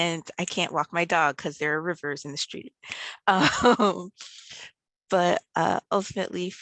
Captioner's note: laughs